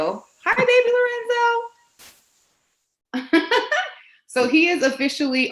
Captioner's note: laughs